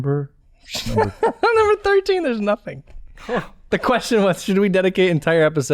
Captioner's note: chuckles